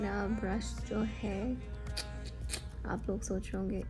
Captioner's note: clicks tongue